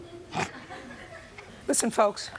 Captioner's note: gallery laughing